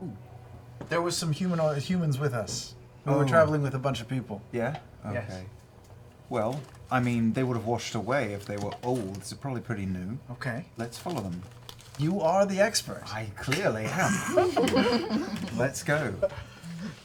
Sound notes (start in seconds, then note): 13.8 laughter